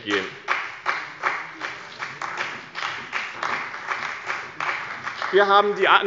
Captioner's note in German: Beifall bei dem BÜNDNIS 90/ DIE GRÜNEN und der CDU